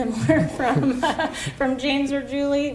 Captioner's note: both laugh